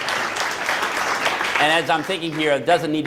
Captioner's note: applause